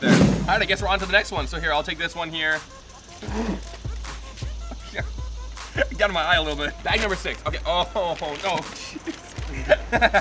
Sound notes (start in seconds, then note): 2.7 spitting